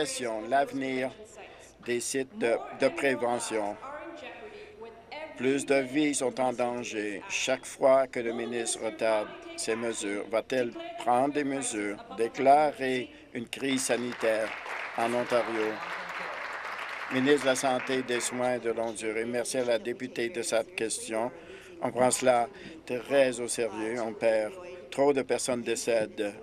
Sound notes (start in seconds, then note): 16.7 applause